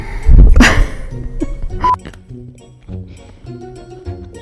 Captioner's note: laughs